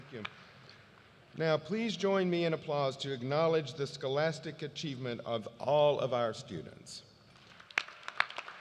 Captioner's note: applause